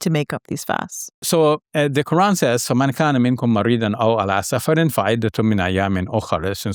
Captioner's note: speaks in foreign language